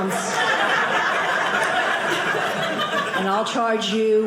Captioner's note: audience laughing